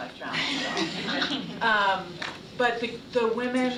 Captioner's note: laughter